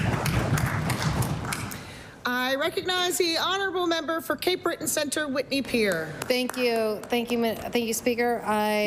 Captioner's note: applause